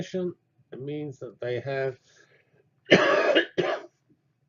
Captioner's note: cough